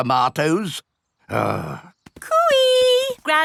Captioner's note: grumbles